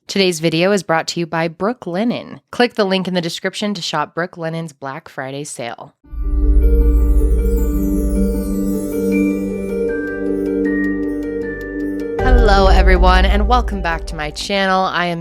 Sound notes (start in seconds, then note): 6.2 mysterious music; 8.3 chimes twinkling